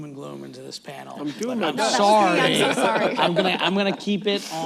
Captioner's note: laughter